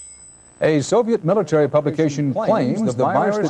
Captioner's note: echoing